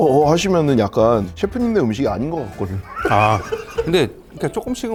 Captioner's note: hahahaha